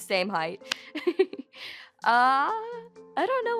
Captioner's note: chuckles